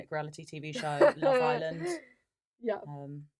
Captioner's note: laughs